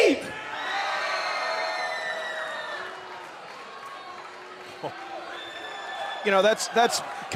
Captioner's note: cheers and boos